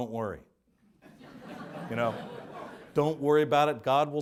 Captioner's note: audience laughs